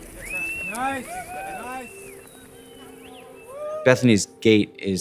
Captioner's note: people whistling